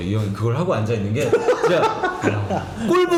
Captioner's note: laughing